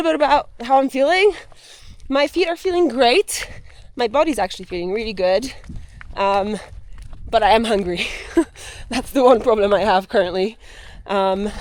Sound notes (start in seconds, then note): 8.4 laughs